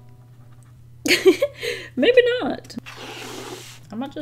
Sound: laughs

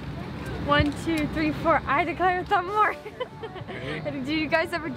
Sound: laughs

